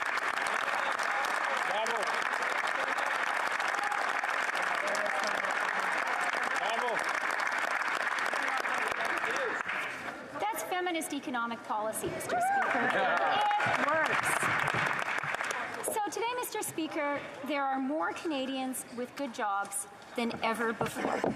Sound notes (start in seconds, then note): 2.8 applause